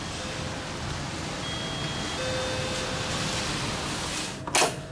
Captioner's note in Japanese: ピンポン